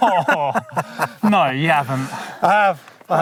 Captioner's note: both laughing